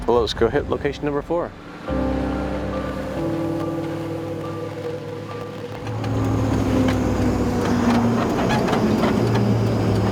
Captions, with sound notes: All right, well let's go hit location number four. (car creaking)